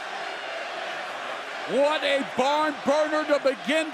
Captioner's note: crowd cheering